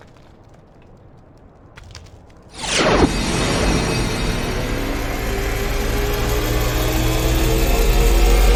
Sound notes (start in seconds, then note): 2.8 wind whooshing